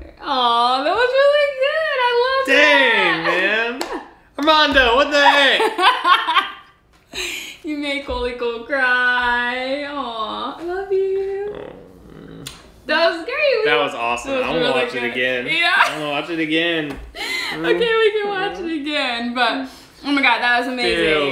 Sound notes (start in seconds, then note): 5.1 laughing